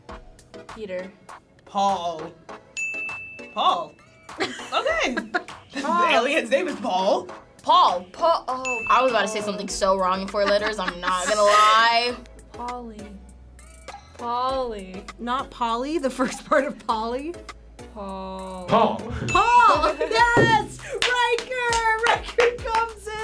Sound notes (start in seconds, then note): 2.8 bell chimes; 8.6 bell chimes